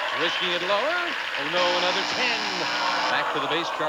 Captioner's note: buzzer sounds